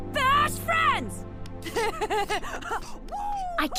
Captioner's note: excited laughing and whooping